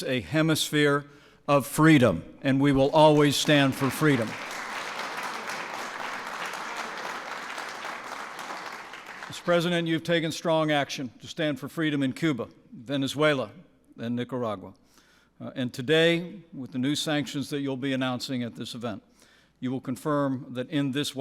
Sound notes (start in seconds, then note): 3.0 applause